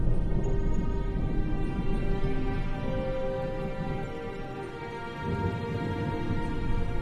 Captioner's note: dramatic music; thunder rumbling